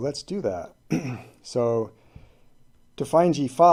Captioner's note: clears throat